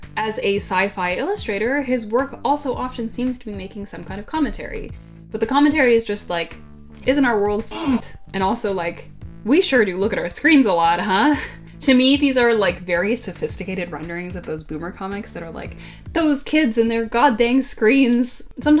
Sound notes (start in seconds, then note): 7.8 grunt